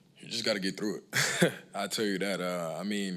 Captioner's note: laughs